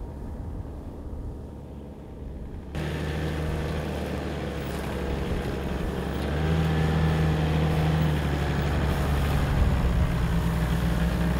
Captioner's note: vehicle sounds